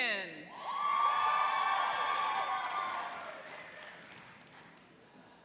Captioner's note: cheering and applauding